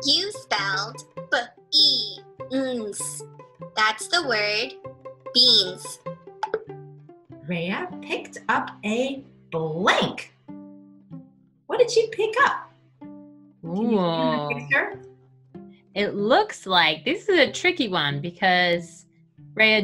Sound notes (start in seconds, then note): 6.4 popping